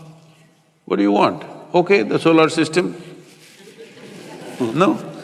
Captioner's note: laughter